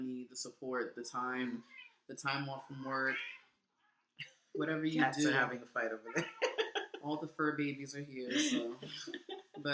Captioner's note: cats meowing